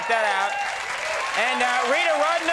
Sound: audience applauds and cheers

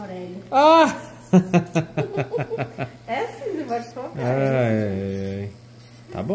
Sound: laughs

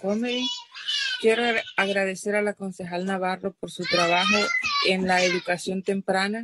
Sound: speaking in spanish

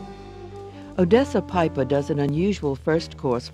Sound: voiceover

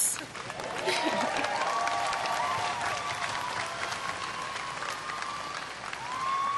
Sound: applause

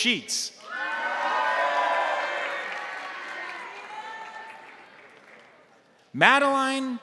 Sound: crowd cheering; crowd applauding

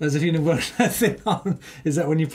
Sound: laughs

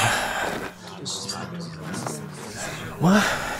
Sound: hushed talking

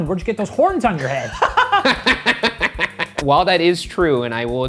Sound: laughter

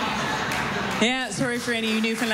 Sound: laughter, applause

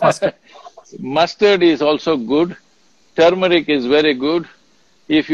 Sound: laughs

